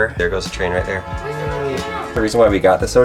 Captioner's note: horn blowing